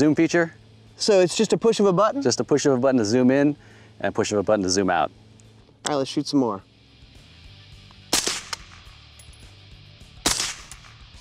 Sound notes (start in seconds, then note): 8.1 fires; 10.2 fires